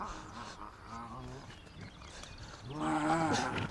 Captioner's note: bucky panting